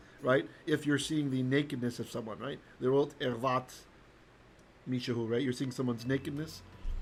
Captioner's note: Hebrew